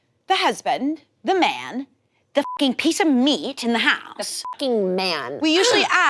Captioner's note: beep; beep